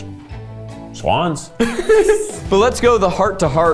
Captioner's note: laughs